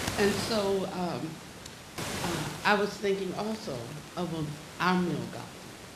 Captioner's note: static hissing